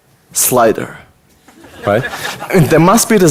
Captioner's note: audience laughter